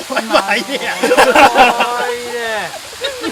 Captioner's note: laughter